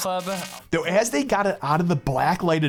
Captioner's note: electric buzzing